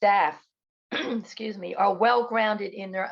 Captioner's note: clears throat